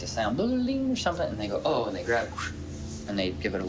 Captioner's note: whoosh